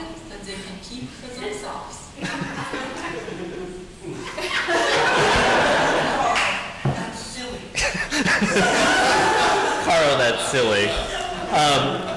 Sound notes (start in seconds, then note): 4.0 audience laughing